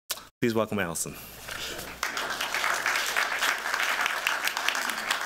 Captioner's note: applause